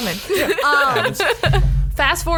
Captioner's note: laughs